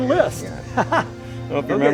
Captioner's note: laughs